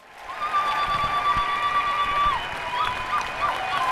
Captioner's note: cheers